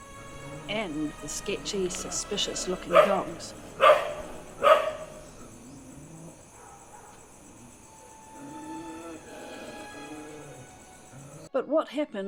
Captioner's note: dog growl